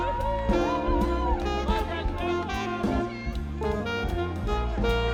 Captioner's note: students cheering and laughing